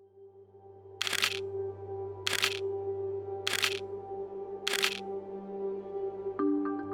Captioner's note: camera clicks